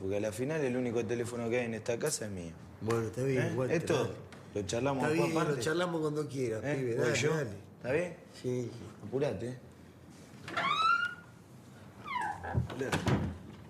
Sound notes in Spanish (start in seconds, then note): 10.4 puerta cruje; 12.0 Walter cierra puerta